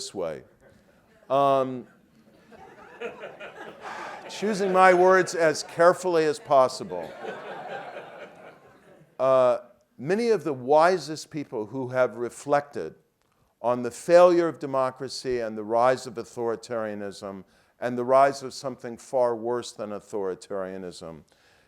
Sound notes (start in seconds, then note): 2.2 laugh